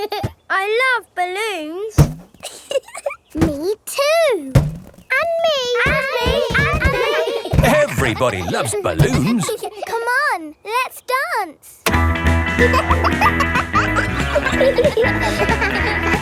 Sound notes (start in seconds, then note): 2.4 chuckles; 12.5 kids laughing; 12.6 pop music playing